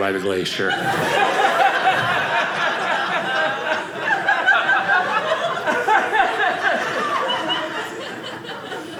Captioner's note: audience laughing